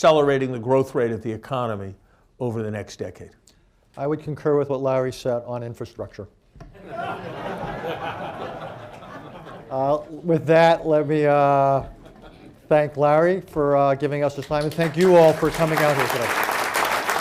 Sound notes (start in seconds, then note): 6.7 laughter; 14.4 applause